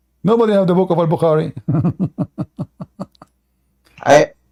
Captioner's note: Ketawa